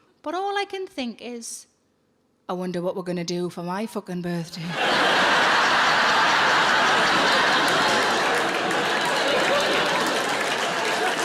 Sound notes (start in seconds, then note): 4.6 audience laughing; 7.8 audience applauding